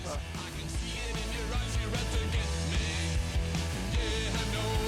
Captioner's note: upbeat music; chainsaw screeching; upbeat music